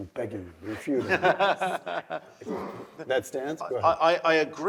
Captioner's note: laugh